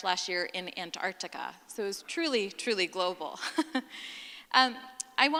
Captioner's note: laughing